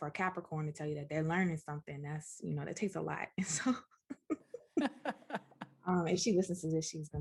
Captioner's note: laughter